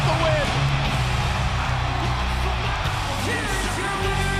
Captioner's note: crowd cheering; upbeat music